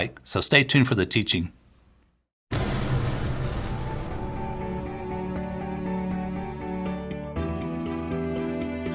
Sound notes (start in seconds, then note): 2.5 fire whooshing; 2.7 gentle music